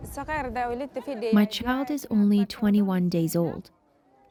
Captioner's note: through translator